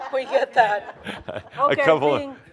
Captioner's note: some laughter